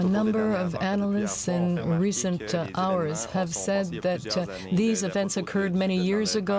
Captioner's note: speaking french